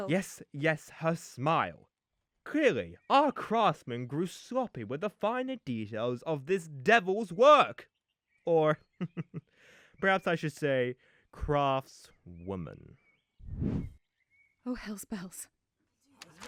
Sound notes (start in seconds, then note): 8.8 chuckles; 13.4 whoosh